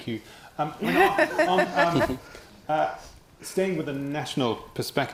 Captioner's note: laughing